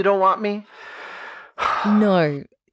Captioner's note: heavy huff